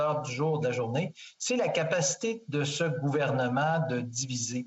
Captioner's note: speaking French